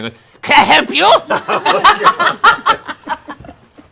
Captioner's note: laughter